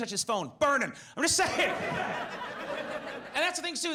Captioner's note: laughs; audience laughs